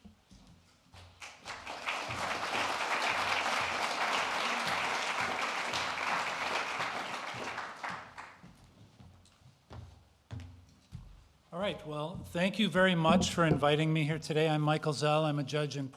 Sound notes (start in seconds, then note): 5.5 applause